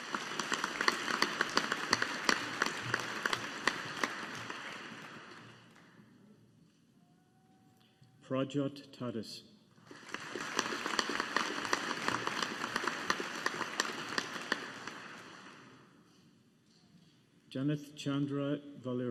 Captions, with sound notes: (AUDIENCE APPLAUDING) Prajyot Tadas. (AUDIENCE APPLAUDING) Janith Chandra Valluri.